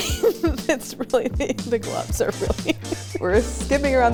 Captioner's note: laughs